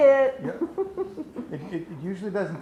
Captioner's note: laughs